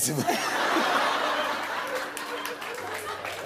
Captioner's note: laughter